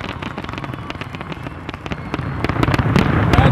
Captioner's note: applause